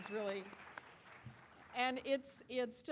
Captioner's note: applause